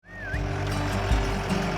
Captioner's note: whistle call